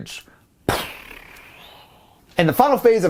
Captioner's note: imitates gun shot